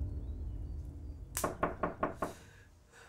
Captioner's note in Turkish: Kapı sesi